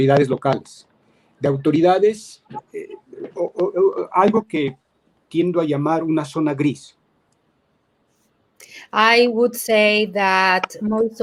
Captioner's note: speaking in Spanish